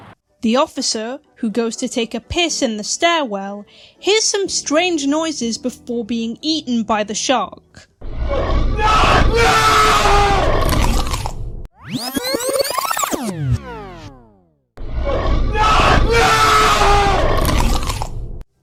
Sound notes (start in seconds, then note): 8.1 crunch noise; 8.2 screaming; 11.8 rewind sound effect; 14.1 crunch noise; 15.0 screaming